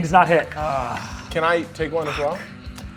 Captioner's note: groans